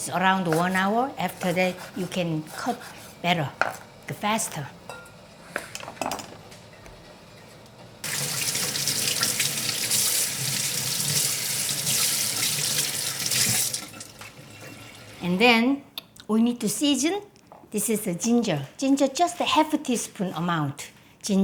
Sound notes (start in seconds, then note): 8.0 water running